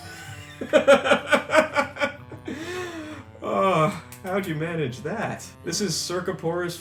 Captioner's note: laughs again